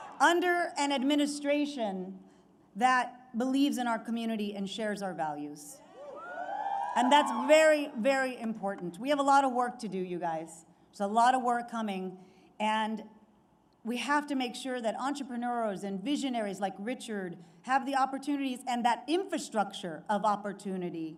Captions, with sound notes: under an administration that believes in our community and shares our values. (Applause.) And that’s very, very important. We have a lot of work to do, you guys. There’s a lot of work coming, and we have to make sure that entrepreneurs and visionaries like Richard have the opportunities and that infrastructure of opportunity